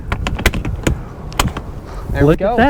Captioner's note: latches clatter